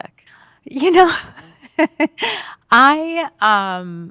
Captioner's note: laughs